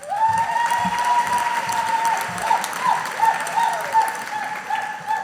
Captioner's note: audience applauding